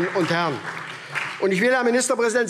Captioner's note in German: Beifall SPD